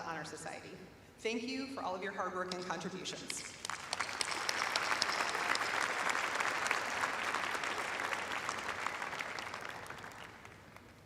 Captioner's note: applause